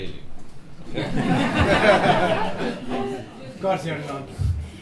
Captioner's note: laughter